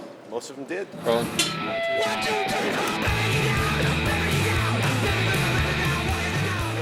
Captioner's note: rock music; people shouting